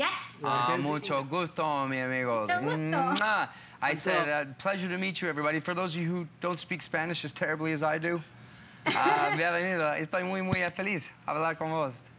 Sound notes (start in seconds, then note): 8.9 laughter